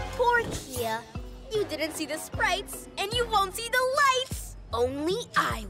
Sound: none

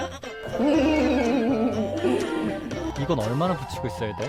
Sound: hehehe

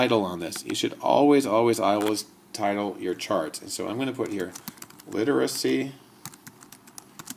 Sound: typing

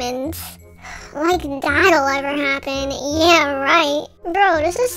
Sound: sigh

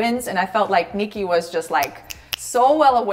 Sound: snapping

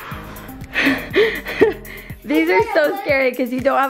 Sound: laughs

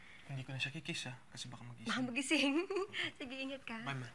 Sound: chuckles

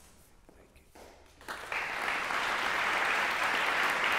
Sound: applause

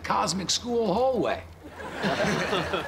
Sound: laughing

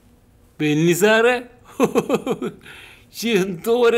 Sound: laughing

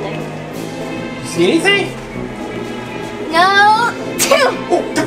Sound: assistant sneezes

